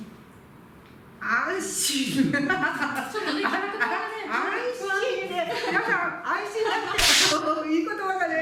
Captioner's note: laughter